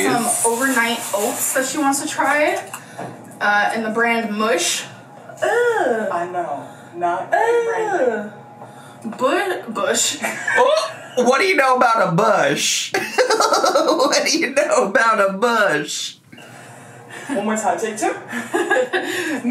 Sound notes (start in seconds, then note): 13.0 laughing